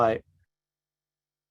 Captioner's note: silence